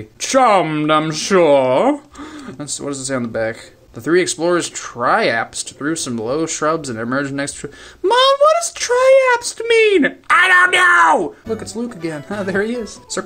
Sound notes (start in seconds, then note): 8.0 little kid voice